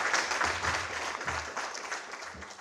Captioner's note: applause